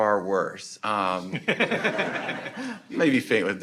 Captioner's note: audience laughing